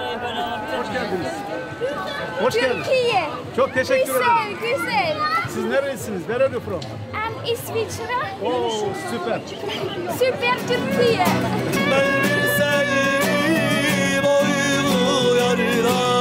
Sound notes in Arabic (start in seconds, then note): 4.1 بالتركية; 11.1 بالتركية; 12.1 موسيقى الشوارع التركية